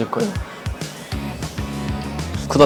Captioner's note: blowing